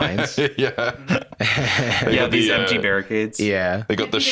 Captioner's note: laughing